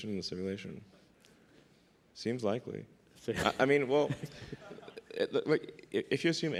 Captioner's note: laughs